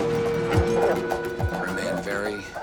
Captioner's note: dog barking